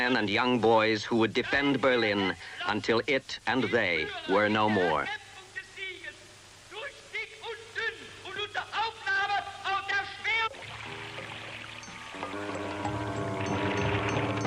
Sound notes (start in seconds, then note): 5.5 soldier yelling in foreign language; 10.6 unsettling music